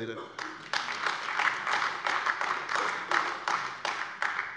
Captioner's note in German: Beifall AfD